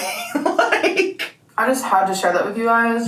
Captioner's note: laughing